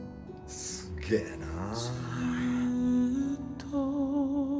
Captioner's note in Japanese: ため息